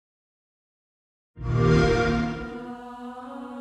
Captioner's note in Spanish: sonido xbox